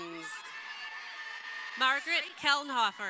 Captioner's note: crowd cheering